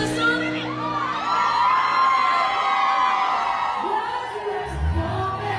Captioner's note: audience cheering